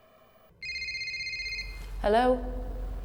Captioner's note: cell phone ringing